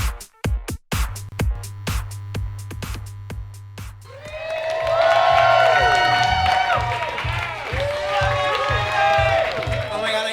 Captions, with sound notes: [neon sign buzzes] [audience cheers and claps] We love you Ruby!